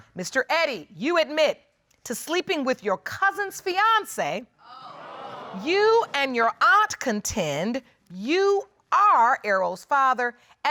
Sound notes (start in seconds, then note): 4.7 audience exclaiming